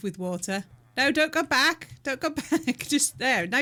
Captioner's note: laughing